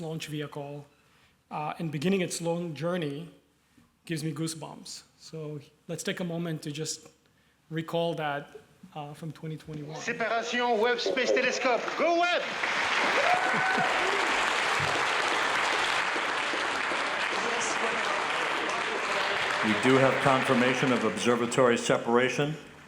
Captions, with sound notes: vehicle and beginning its long journey gives me goosebumps. So let's take a moment to just recall that from 2021. - [non-english speech] Go Webb! [cheering] - We do have formation of observatory separation.